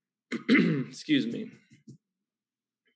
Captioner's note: clears throat